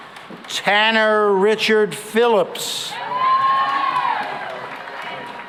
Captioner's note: cheering and applause